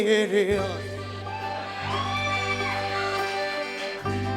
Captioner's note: crowd cheers